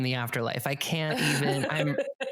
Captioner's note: laughs